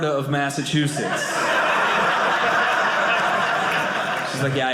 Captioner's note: audience laughing